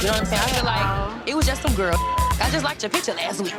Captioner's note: beep